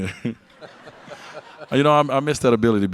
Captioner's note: audience laugh